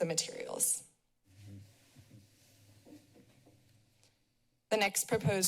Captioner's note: short silence